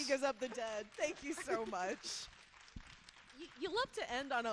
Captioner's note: audience applauding